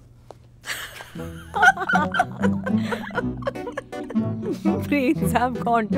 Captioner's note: Laughs